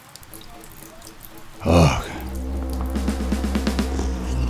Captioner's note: rain sound; intense drum buildup